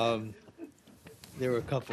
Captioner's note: laughter